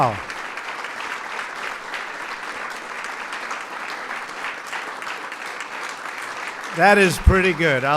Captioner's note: applause